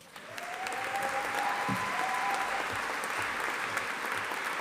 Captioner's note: audience applauding